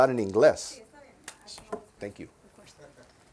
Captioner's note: reporter in Spanish